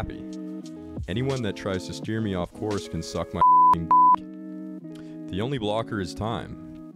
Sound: beep sound

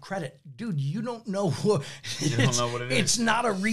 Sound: laughing

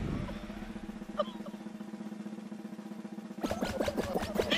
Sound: laughing and crying

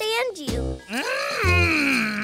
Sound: growl of frustration

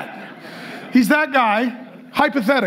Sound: congregation laughing

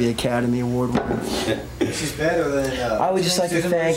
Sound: laughs

